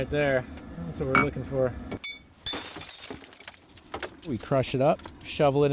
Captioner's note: glass shattering